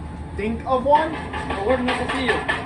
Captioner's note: knocking sounds